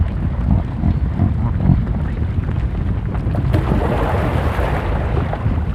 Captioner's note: Caribou Grunts - Splash